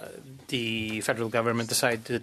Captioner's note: speaking French